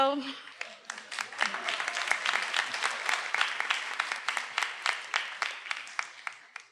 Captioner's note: everyone applauding; attendee cheering